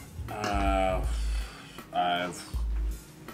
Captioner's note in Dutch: ademt zwaar uit